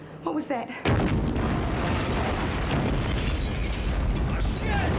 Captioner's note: glass shatters and pipe bomb explodes; John screams